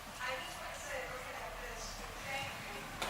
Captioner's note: woman's Voice